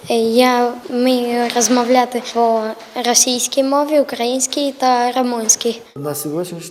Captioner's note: <i>Ukrainian</i>